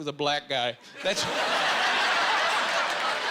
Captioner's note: laughing